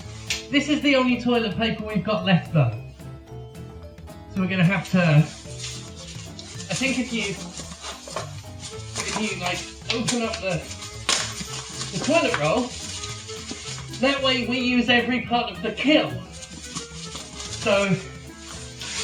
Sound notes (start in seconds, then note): 5.5 ruffling noises; 16.4 ruffling